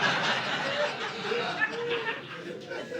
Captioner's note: audience laughing